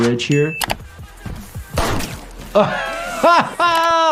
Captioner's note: gunshot fires again; blood splatters; doctor laughs